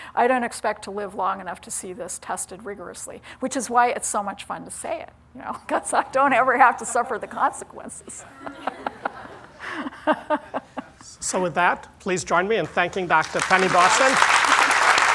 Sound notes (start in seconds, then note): 8.1 laughter